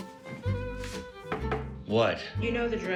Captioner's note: knocking on door